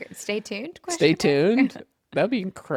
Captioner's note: laughs